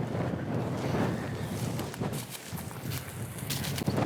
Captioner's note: foot steps